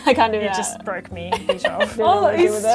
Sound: laughs

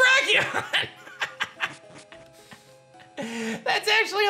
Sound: laughs

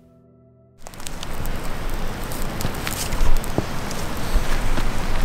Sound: fire crackling

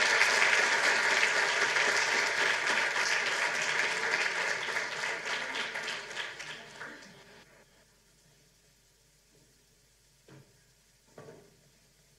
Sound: applause

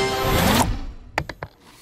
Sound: bounces; whirring, beeping

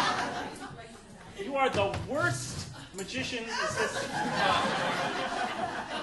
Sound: audience laughing; audience laughing

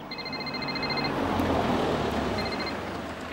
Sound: ringing

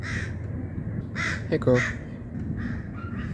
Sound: crow caws

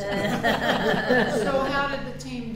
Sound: all laugh

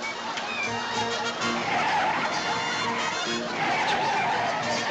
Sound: tires squealing

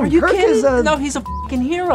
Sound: buzzing

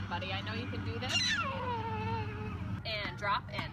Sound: squeals

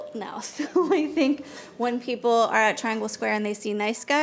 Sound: chuckling

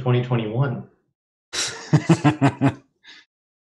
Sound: laughter

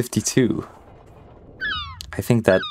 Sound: bird squawks

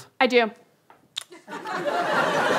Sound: kiss; audience laughter

